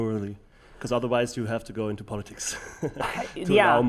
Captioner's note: chuckles